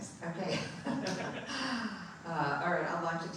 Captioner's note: laughing